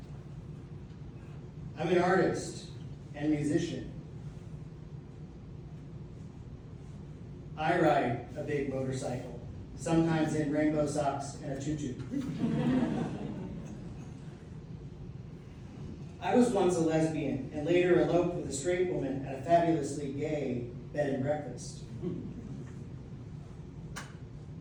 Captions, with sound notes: I'm an artist and musician. I ride a big motorcycle, sometimes in rainbow socks and a tutu. [audience laughs] I was once a lesbian and later eloped with a straight woman at a fabulously gay bed and breakfast [laughter].